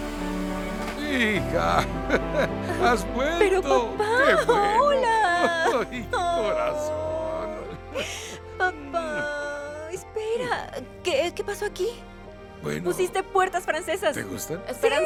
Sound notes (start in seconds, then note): 1.9 Ambos ríen